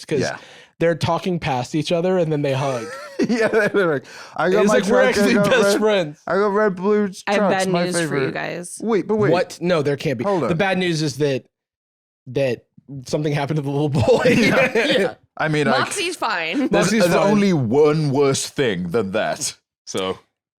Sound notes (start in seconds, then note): 2.6 laughs